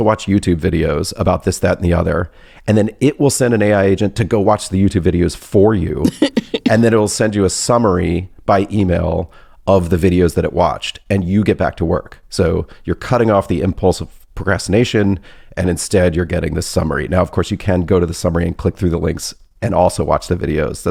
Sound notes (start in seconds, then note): 6.0 laughs